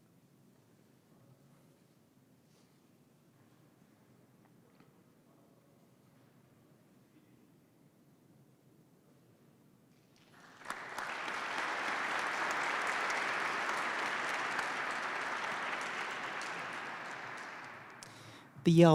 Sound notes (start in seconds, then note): 10.1 participants clap